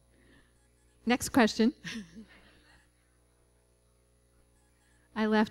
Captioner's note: laughter